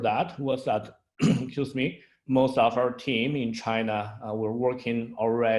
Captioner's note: clears throat